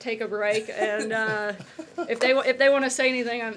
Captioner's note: laughter